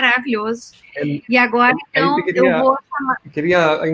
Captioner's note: multiple voices